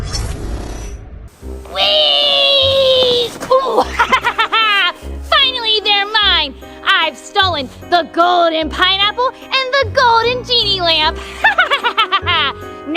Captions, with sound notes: - Whee, ooh. (laughs) Finally they're mine. I've stolen the golden pineapple and the golden genie lamp. (laughs)